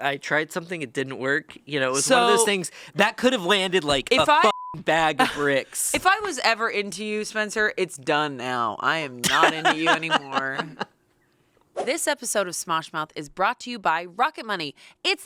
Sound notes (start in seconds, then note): 4.4 beep; 9.2 laughs